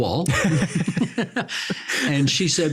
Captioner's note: both laughing